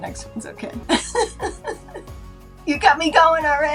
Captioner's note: laughing